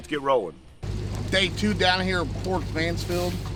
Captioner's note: motor humming